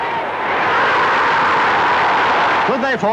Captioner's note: crowd roaring